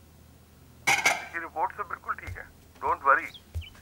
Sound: voice over the phone

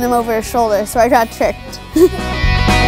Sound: laughs

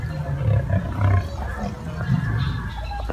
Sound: lions growling

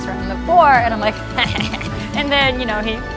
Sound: snickering

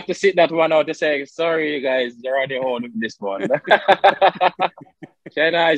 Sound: both laugh

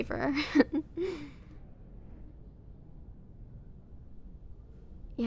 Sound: soft laugh

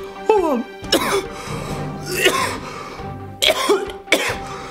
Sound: rasping cough

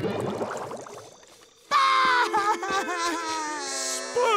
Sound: crying

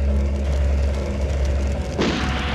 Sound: gun shot

